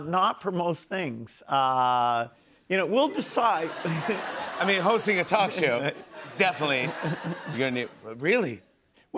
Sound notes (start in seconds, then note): 3.2 laughter